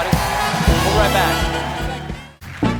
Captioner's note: cheers and applause